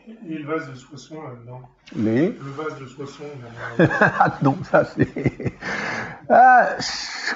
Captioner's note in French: Rire